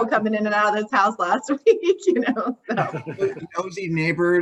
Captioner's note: laughs